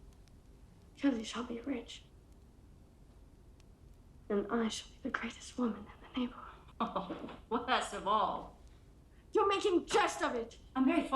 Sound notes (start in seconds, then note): 6.8 laughs